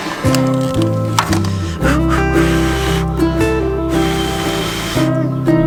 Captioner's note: blowing